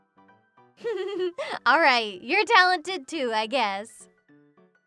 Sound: giggles

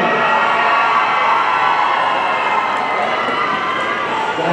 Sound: audience cheering

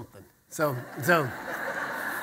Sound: audience laughter

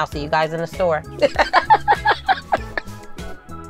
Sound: laughing

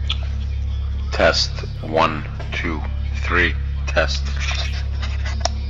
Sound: recorded Voice

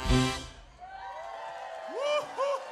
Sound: crowd cheers

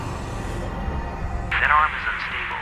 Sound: radio crackle

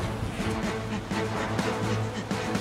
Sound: panting

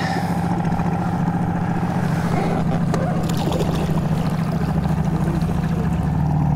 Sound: boat motor hums; water splashes

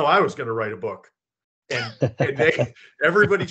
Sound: laughter

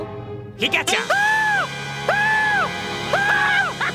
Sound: screaming; laughing

